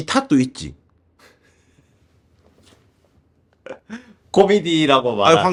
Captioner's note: laughter